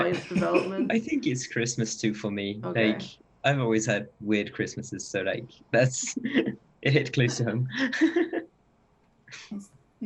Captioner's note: laughs; laughs